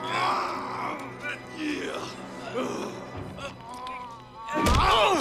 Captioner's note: Knox grunting